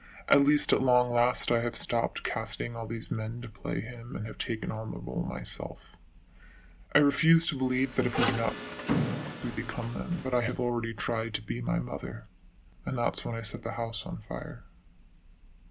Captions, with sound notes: at least at long last I have stopped casting all these men to play him, and have taken on the role myself. I refuse to believe that if we do not-- [static overwhelms the sound of the text] --we become them, but I have already tried to be my mother, and that's when I set the house on fire.